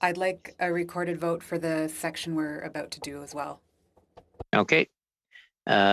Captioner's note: speaking French